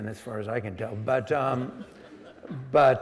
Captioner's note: audience laughing